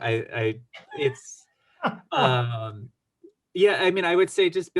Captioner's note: laughs